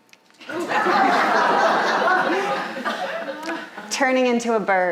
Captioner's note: audience laughing